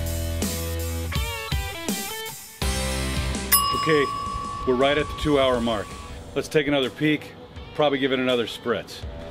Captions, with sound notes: Okay, we're right (timer chiming) - at the two hour mark, let's take another peak, probably give it another spritz.